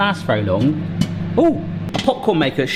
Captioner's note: popping